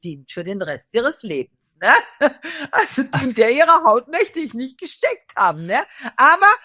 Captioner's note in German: gelächter